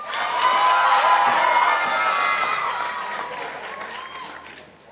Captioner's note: participants applauding